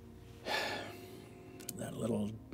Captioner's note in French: soupire